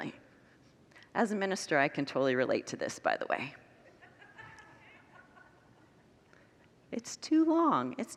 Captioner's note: congregants laugh